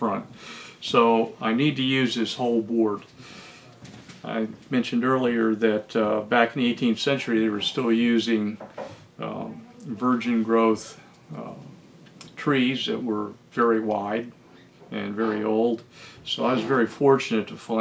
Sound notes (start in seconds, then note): none